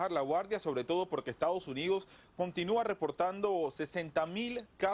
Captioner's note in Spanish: habla en ingés